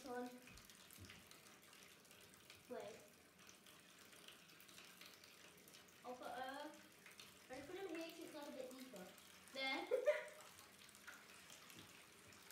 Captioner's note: sinking noise